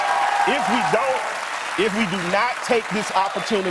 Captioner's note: cheers and applause